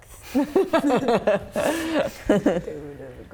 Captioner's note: laughing